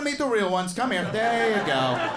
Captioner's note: audience laughs